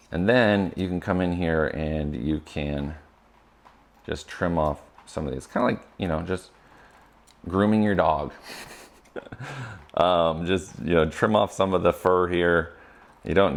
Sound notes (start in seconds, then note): 8.2 laughs